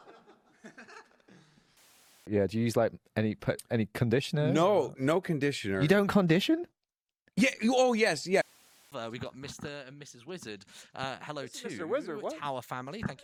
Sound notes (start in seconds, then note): 7.5 stammering